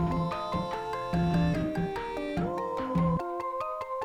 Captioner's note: vocalist humming; bright music